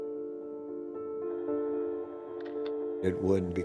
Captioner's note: shutter clicks